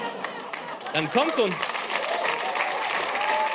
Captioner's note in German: Gelächter